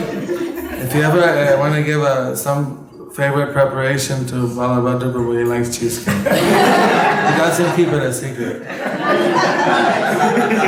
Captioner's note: laughter